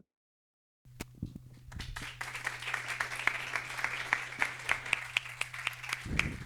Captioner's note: applause